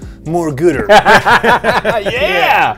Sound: laughs

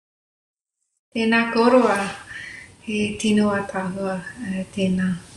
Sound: speaks maori

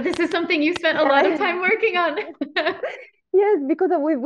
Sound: laughs

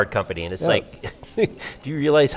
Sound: laughs

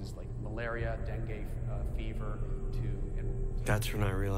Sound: voice fading

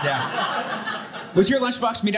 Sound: audience laughing

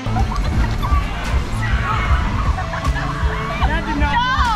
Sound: kids laughing

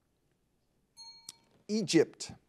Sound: bell rings

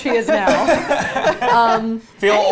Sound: all laughing

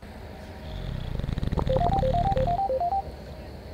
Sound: snoring, phone ringing

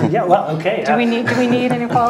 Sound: laugh

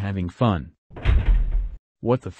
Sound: door opens

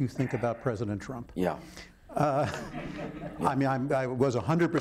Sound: audience laughing

